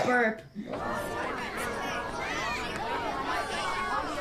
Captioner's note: people chattering